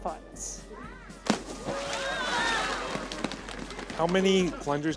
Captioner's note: cheering